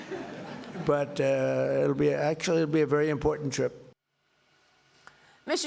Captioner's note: laughter